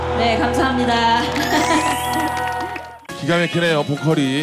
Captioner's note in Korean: 자동 박수